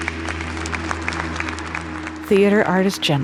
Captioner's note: people clapping